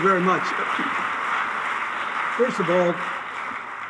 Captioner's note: audience applauding